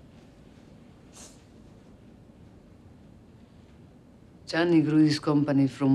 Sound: sniffles

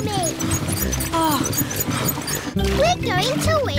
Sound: groans

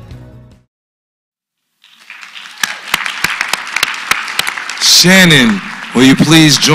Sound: applause

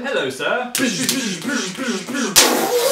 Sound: lightsaber-like sounds; explosion noise

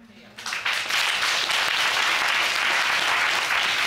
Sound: audience applauding

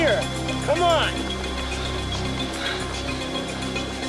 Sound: panting

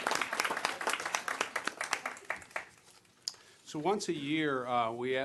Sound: applause

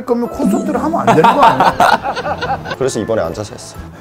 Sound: laughing

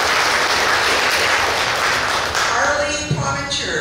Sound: clapping

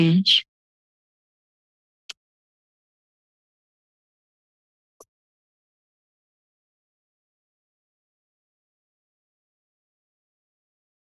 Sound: silence

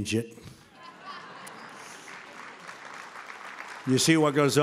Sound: applause

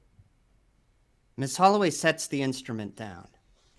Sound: none

